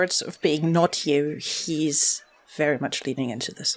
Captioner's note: none